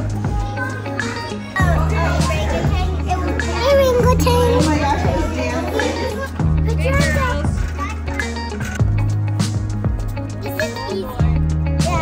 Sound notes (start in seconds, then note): 0.2 upbeat music; 2.7 group chatter; 9.2 upbeat music